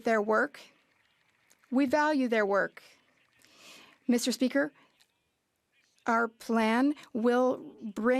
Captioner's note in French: applaudissements